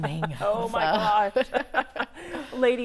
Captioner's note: laughing